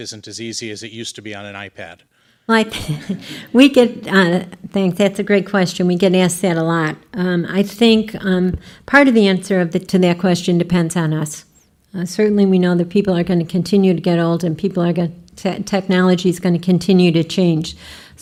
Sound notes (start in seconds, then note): 2.7 laughing